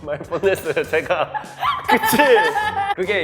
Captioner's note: laughs